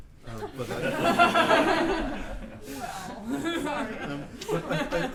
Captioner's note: laughter